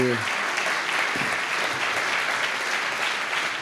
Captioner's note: applause